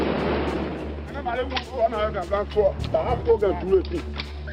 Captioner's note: pidgin spoken audio